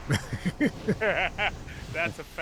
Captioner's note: laughs